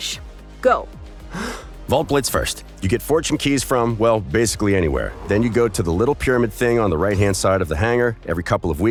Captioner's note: intake of breath